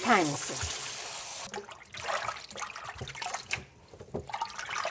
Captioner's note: water splashing